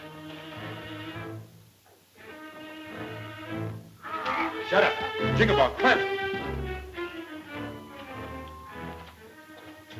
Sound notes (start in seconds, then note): 4.0 yelping